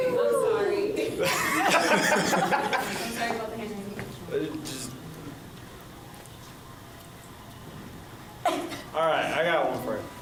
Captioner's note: laughs